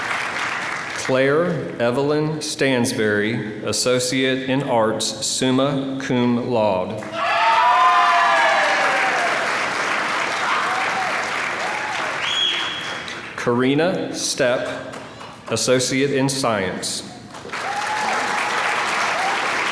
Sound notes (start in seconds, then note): 7.5 applause; 17.3 applause